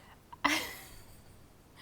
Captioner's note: laughing